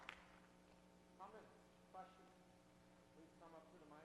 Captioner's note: voiceover